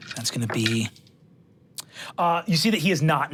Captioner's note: dice rolling